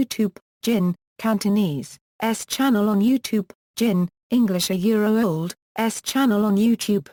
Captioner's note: Cantonese